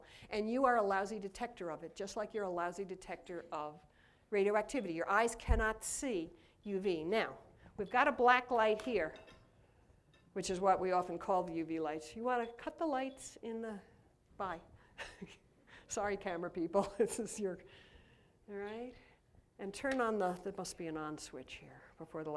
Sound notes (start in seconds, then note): 15.0 laughter